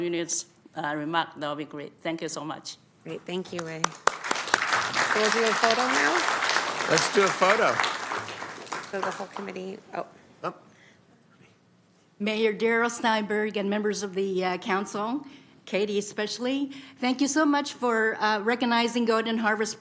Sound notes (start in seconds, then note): 8.9 applause